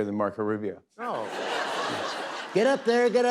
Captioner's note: laughter